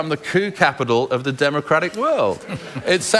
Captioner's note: laughter